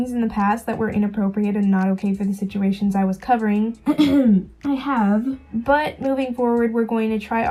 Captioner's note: clears throat